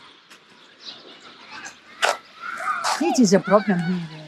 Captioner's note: children playing distantly